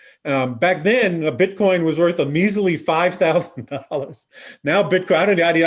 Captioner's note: laughs